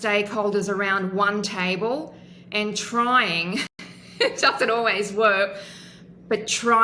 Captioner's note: laughs